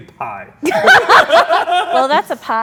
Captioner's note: laughs